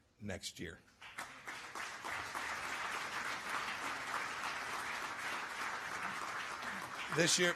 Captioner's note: applause